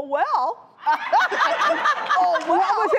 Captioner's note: laughing